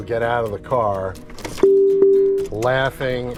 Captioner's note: car beeping